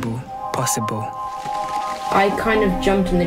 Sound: crackling

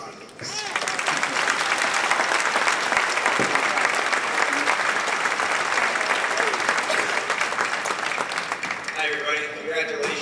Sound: clapping

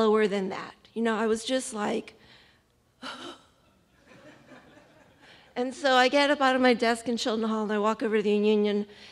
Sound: sighs

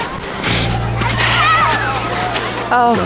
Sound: crowd noise

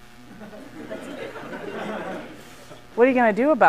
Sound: laughter

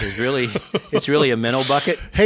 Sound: laughs

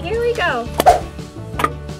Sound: eyeball whooshing; eyeball clicking

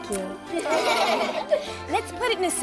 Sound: laughing

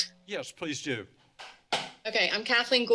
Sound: bang

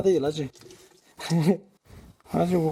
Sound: laughing

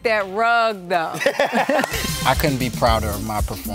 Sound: laugh

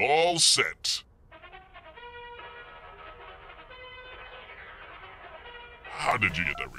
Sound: NFL theme ringtone

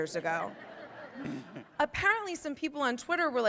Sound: audience laughs

